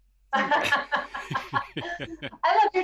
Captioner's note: everyone laughs